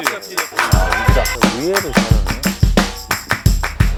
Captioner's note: surprised